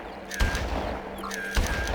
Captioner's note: gun firing